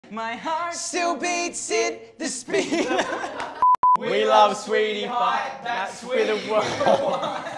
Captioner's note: laughing